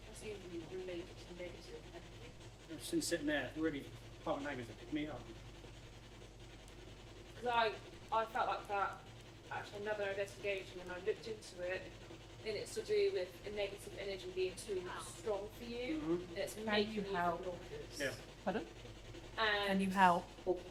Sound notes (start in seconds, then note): 5.5 electronic whirring